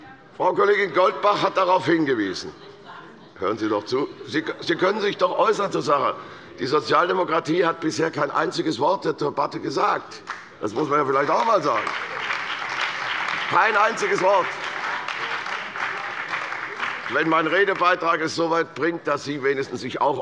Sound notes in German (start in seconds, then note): 14.8 Beifall bei der CDU und dem BÜNDNIS 90/DIE GRÜNEN